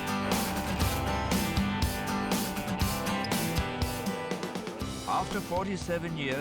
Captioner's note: bright music; destination board clacking